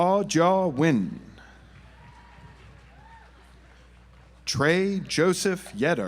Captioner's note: audience applauds